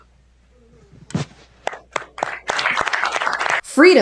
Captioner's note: applause